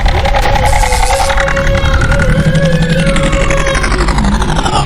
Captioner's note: electricity crackling